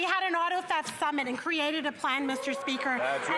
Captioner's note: cheering and Applause